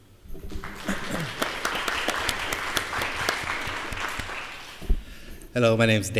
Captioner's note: applause